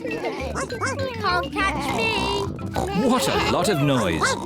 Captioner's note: barks